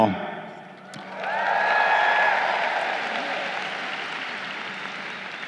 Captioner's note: crowd cheering